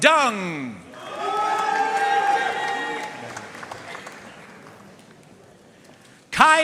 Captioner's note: audience cheering and applauding